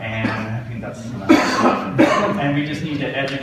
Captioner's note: audience mumbles